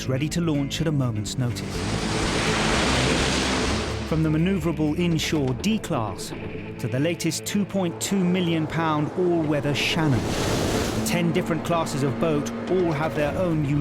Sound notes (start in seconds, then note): 1.6 water splashes